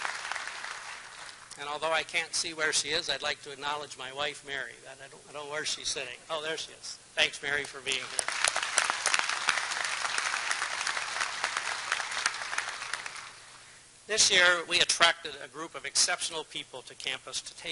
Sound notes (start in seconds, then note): 0.0 applause; 12.3 applause